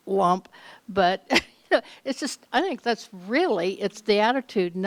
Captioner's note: chuckles